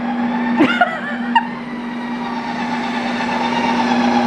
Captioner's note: laughing